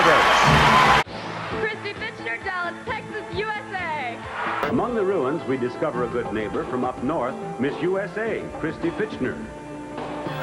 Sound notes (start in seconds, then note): 0.0 crowd cheering and applauding; 4.0 crowd cheering